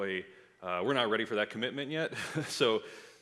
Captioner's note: laughs